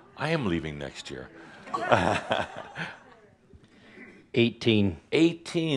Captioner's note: chuckles